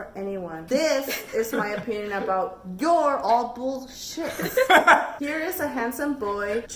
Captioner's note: cackles